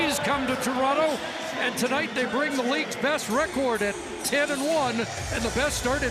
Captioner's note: cheering and Applause